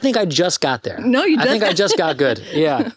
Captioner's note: laughs